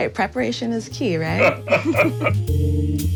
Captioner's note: laughter; upbeat music